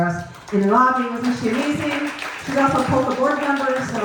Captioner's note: clapping